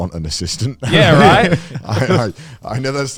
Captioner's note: group laughs